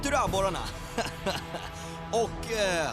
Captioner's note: chuckles